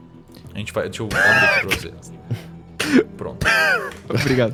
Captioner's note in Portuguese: risada